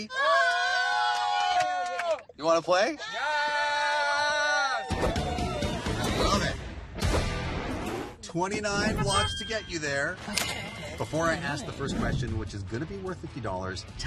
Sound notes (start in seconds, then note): 2.1 cheering; 5.6 cheering